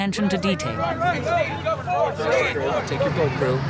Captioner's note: group chatters